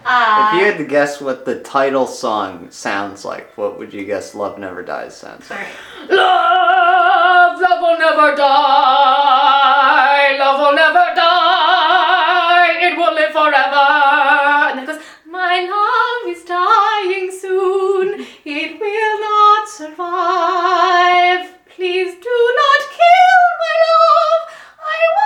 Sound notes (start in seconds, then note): 5.7 aggressively; 16.3 sweetly